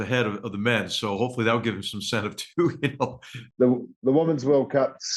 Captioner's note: laugh